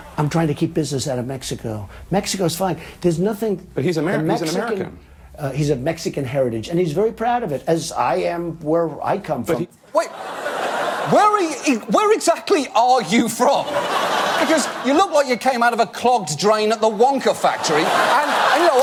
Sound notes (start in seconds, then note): 10.0 audience laugh; 13.4 audience laugh; 16.8 audience laugh and applaud